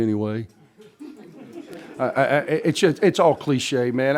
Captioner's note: laughter